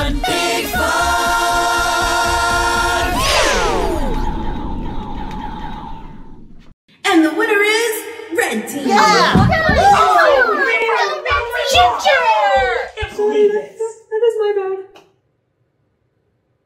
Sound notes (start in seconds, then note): 3.1 laser sounds; 8.8 kids grumbling and cheering